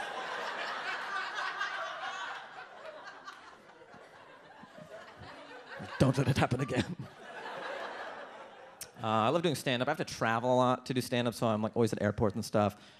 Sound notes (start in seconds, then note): 0.2 audience laughs; 7.8 audience laughs